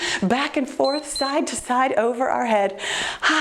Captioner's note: timer beeps